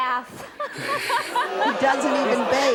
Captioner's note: laughing; audience exclaiming